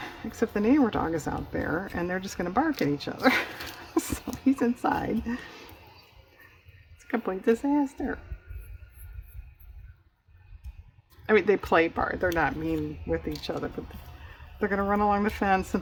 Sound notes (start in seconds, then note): 3.2 laughs